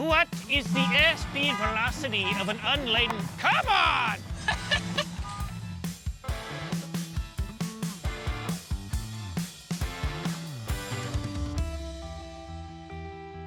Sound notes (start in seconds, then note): 3.8 car alarm going off; 4.7 laughing; 5.6 upbeat music